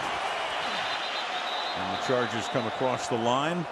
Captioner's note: whistle